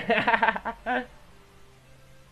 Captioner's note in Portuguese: risos